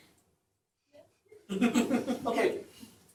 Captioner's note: laughter